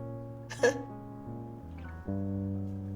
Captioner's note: chuckling